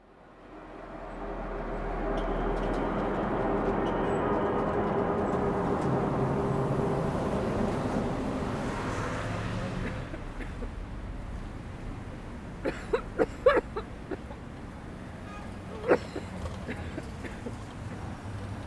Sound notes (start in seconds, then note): 0.5 eerie noise; 7.9 street din; 9.6 vigorous coughing